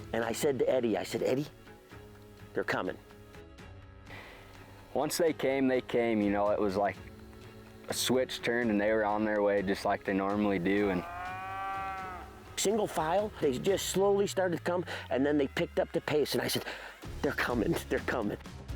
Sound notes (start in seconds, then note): 10.6 cow moos